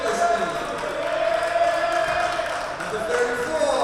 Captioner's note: team cheering and clapping